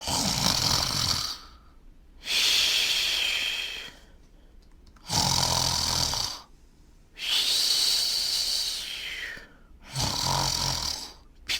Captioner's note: snoring